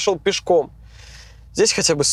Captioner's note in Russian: вздыхает